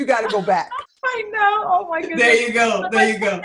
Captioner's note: laughing